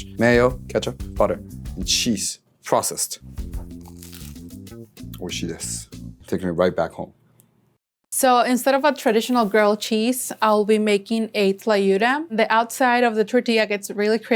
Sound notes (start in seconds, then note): 3.6 toast crunching; 5.0 speaking Japanese